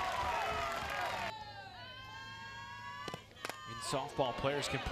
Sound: crowd members booing

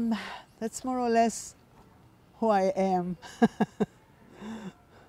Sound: laughing

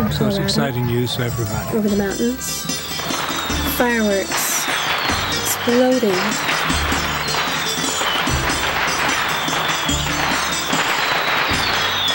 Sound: fireworks

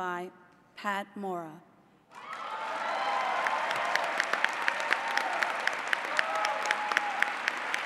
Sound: applause

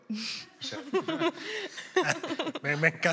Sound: laughter

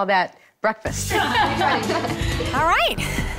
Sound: all laughing

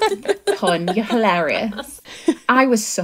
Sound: laughing

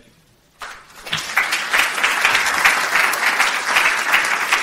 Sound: audience applauds

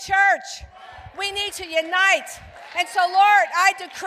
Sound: congregation cheering

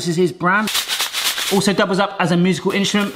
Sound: couscous rattles

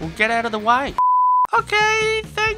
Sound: beep

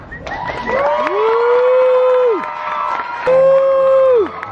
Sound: crowd cheering

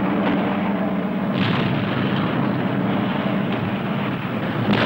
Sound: explosions booming

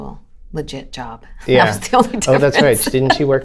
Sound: laughter

